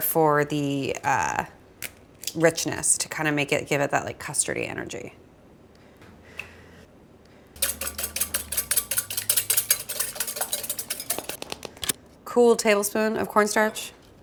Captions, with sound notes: for the richness to kind of make it, give it that like custardy energy. (whisk clanks on bowl) Cool tablespoon of cornstarch.